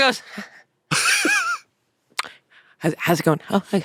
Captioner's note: laughs